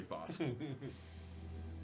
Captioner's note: laughter